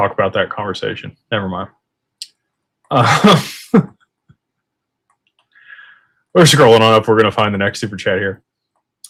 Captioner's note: laughter